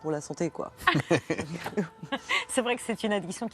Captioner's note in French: rires